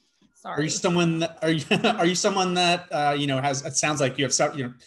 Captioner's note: laughs